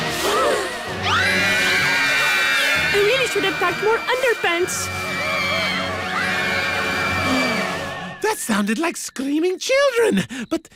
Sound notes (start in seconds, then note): 0.2 gasping; 0.9 all screaming; 5.1 screaming continues